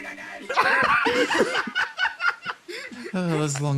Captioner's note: laughs